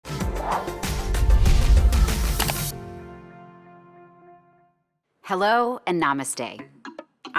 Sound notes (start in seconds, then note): 2.3 click